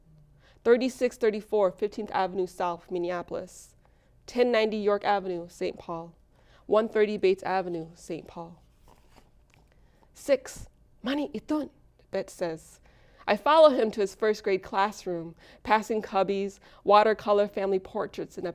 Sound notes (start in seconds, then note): 10.6 speaks foreign language